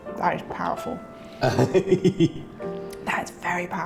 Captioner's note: laughing